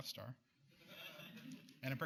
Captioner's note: laughter